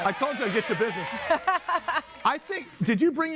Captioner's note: laughs